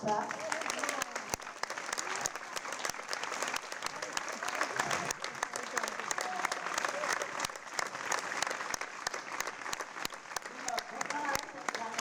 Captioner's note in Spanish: aplausos